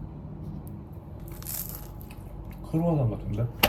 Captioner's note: Crunch